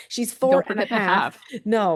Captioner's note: chuckles